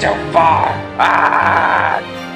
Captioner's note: audible yelling